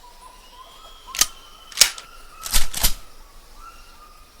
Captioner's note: gun clicking